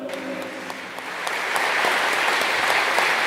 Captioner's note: clapping